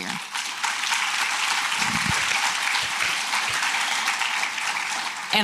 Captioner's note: applause